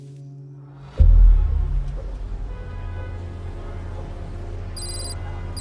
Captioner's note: car horns honking; letters clicking